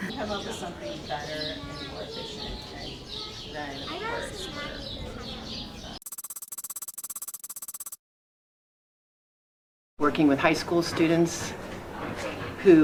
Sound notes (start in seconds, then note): 6.0 keyboard tapping